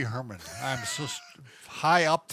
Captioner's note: chuckling